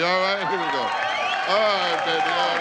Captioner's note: audience applause